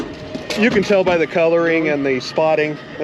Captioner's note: fish thrashing